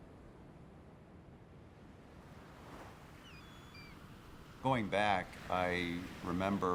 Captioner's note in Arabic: طيور النورس تبكي